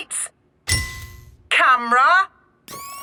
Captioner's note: through megaphone; clicking; whirring